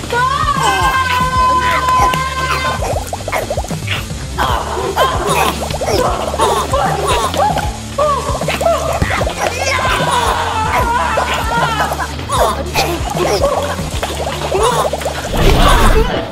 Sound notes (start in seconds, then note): 0.3 shouting; 4.4 germs gibbering; 4.4 grunting